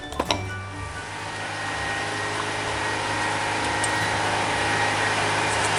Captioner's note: loud machinery sounds